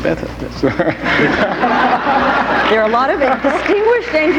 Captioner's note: audience laughing